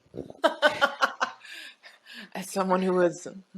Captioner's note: laughs